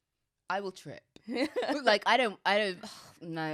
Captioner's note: laughs